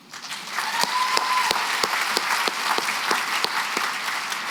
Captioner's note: applause